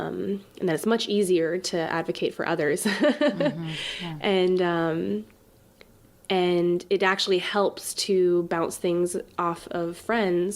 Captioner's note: laughs